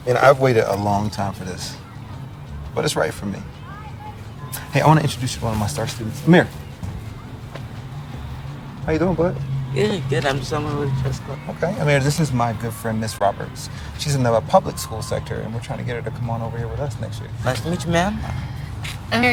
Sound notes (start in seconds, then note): 17.2 Ja'nelle laughing